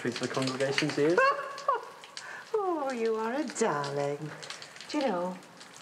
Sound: laughs

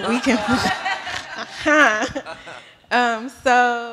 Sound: laughter

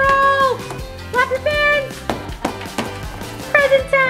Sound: fins thudding

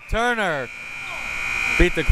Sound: buzzer

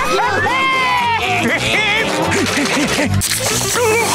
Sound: laughing

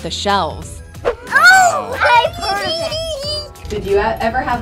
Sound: laughs

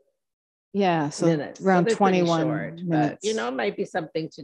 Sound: overlapping chatter

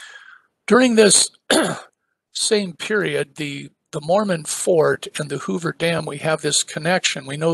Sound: cough

